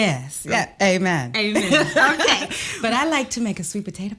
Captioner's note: Kellita laughs